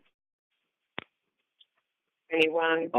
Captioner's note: silence